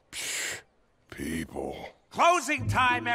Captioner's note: scoffs